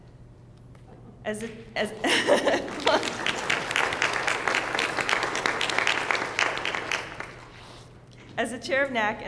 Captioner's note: applause